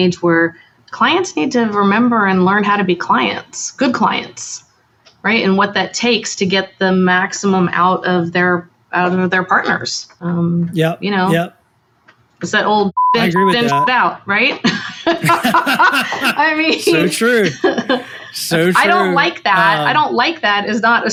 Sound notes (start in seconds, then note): 13.0 beep; 15.2 both laughing